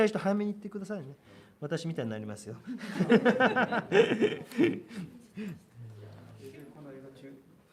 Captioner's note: 笑い